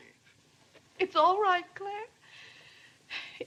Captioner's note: sobs